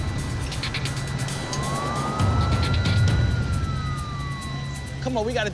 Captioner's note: police sirens